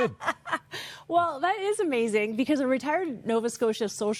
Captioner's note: chuckling